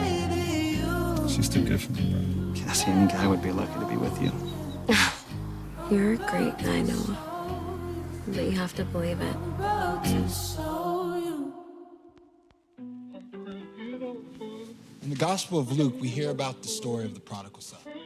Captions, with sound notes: She's too good for me. Cassie and Guy would be lucky to be with you. [Scoffs] You're great, and I know... that you have to believe it. And... In the Gospel of Luke, we hear about the story of the prodigal son.